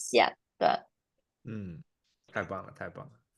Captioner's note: nonverbal grunt as interjection